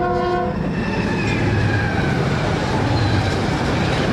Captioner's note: train hoots; train zooms